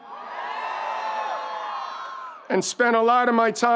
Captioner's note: crowd cheers